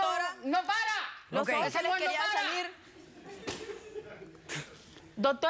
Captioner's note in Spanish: risas